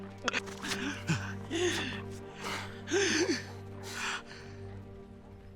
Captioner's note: choking, gasping breath